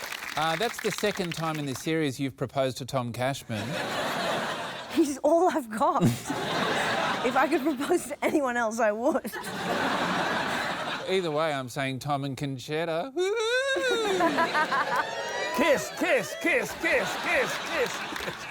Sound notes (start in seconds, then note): 3.5 laughter; 9.2 laughter; 15.8 chants